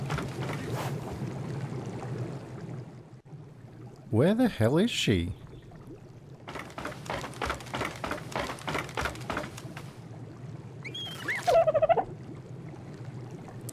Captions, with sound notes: Where the hell is she? (squeaking)